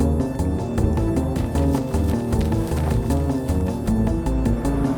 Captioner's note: footsteps pattering; engine revving